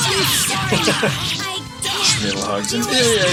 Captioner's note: chuckles